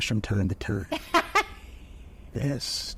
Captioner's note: chuckles; laughs